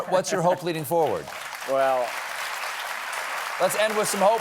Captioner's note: applause